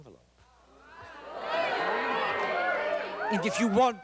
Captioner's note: chatter